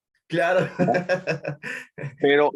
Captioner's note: laugh